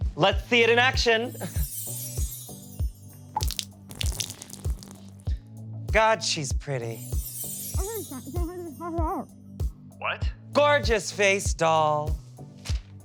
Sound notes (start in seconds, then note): 3.2 water drips